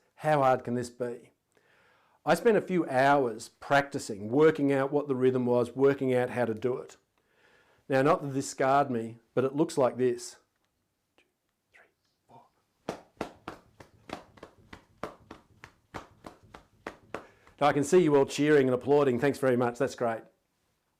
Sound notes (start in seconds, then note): 10.7 whispering; 12.8 hands slapping on thighs rhythmically